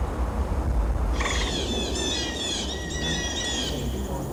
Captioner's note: birds calling